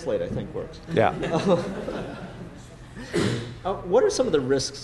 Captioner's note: laughter